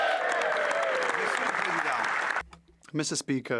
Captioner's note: speaking French